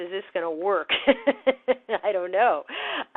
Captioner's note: chuckling